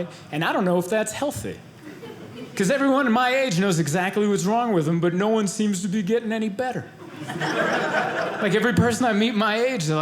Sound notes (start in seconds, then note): 7.0 audience laughing